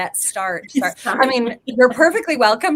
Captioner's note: laughs